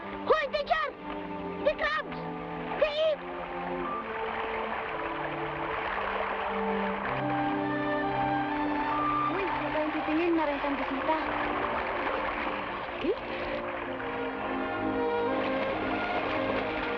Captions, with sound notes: - Hold, teacher, the crabs, they eat! (women speaking in Tagalog) (somber music)